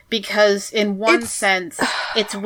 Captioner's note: sighs